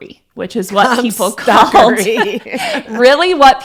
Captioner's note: laughs